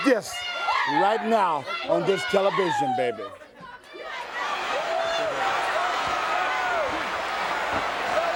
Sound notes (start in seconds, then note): 3.6 crowd cheering; 4.4 crowd chatter; 6.0 crowd cheering